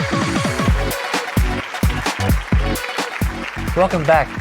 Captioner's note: applause